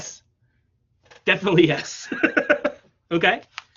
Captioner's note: laughs